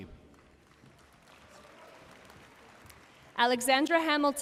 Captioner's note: audience cheering and applauding